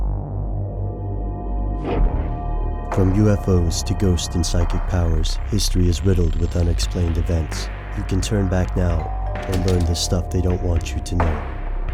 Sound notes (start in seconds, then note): 3.1 voiceover